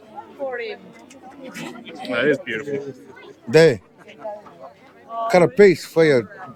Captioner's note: people chattering